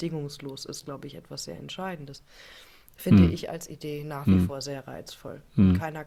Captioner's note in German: räuspern